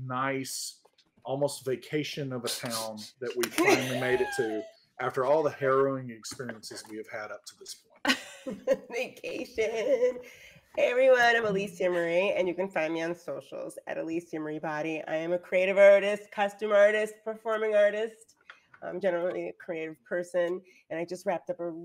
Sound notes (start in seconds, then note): 3.2 laughing; 8.4 laughing